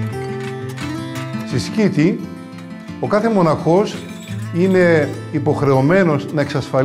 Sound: upbeat string music; speaks in foreign language

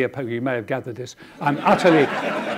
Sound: audience laughing

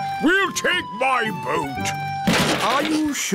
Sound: clattering

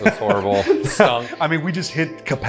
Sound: laughter

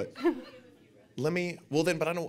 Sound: audience laughing

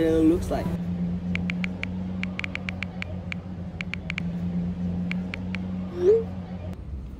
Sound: typing sound

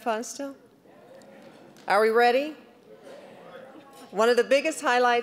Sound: scattered affirmative response

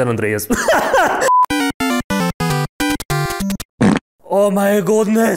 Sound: laughs; cool Intro sound effects

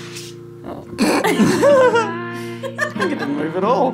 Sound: laughing

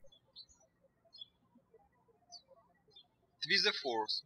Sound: birds chirping

